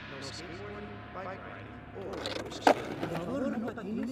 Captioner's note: skateboard clattering